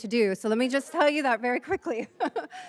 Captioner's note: chuckles